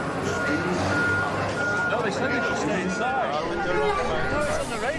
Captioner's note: backup signal beeps